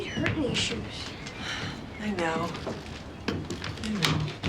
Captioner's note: sighs